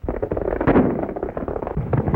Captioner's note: gunshot